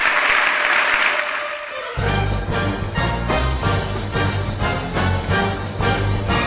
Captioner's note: applause